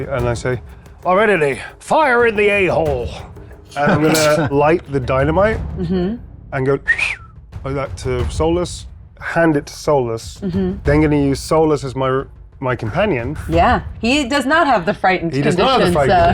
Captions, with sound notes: and I say, Lividity, fire in the A-hole! (players chuckling) I'm gonna light the dynamite and go (whistles) like that to Solus, hand it to Solus, then gonna use Solus as my companion. - Yeah, he does not have the Frightened condition, so. (chuckles) - He does not have